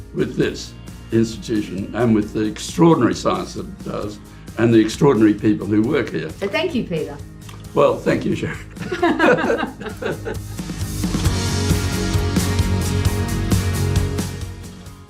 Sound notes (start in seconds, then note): 8.4 both laugh; 10.6 upbeat music